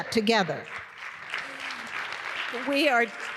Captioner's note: applause